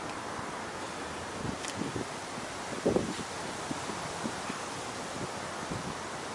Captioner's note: exhaling heavily